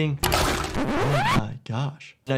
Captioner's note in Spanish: grabación chirriante